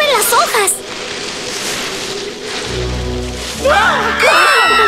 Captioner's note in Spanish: Sonido de hojas; Sonido de gritos